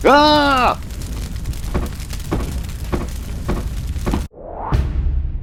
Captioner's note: stamping sounds